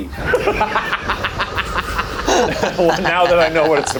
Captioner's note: laughing